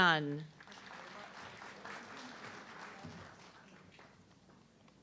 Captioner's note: audience clapping